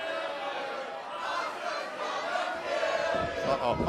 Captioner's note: fans chanting